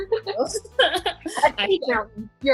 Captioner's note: both laugh